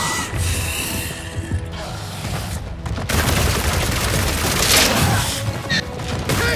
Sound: gunshots

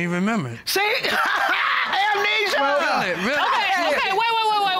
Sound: laughs

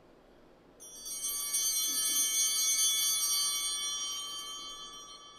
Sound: chimes ringing

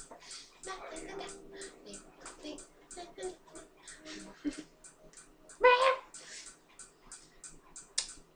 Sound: chatter

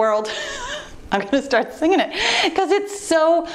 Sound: laughs

